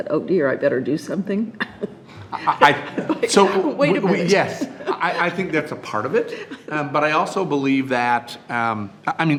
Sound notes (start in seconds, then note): 1.6 chuckles